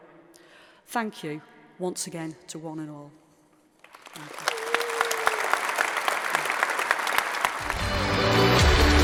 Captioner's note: applause